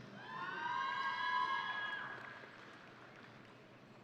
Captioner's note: audience cheering